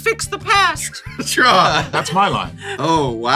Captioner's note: laughing